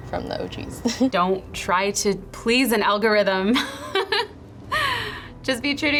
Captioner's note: laughs